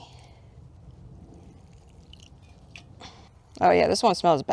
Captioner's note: quiet gloopy noises